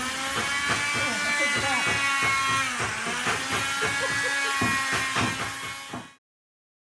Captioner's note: motor whirring